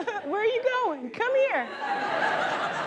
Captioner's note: laughter